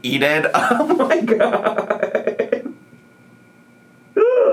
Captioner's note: laughs